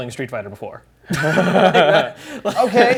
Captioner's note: laughing ensues